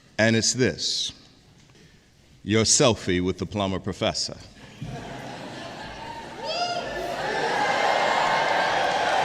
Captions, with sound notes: And it's this your selfie with the Plummer professor. (audience laughs) (applause)